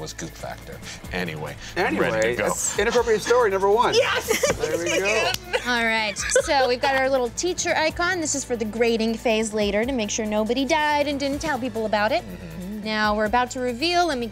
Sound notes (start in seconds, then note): 4.5 laughs